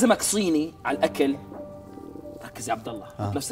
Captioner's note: stomach growls